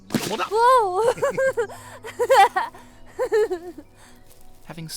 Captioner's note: laughs